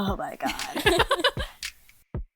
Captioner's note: hosts laugh